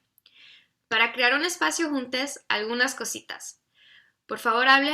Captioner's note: speaks in foreign language